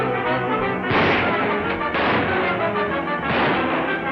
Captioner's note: guns firing